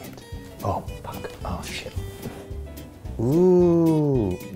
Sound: whispers

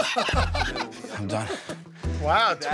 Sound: laughter

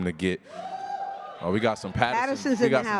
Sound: audience cheers

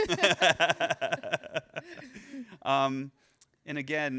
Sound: laughs

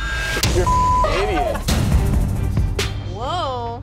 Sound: beep

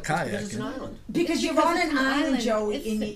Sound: voiceover

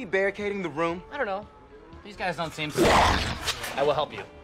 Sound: zombie makes a zombie noise

